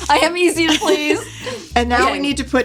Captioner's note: laughs